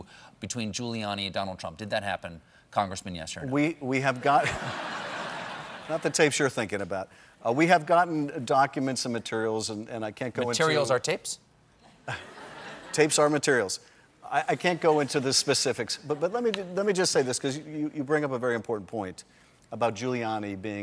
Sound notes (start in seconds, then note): 4.3 laughter